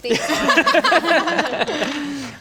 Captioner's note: heartless laughter